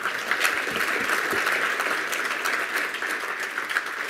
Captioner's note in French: Applaudissements